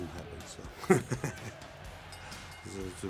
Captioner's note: laughs